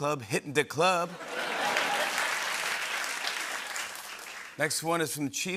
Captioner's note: laughter and applause